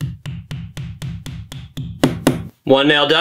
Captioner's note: nail hammering